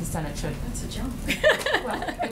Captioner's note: laughs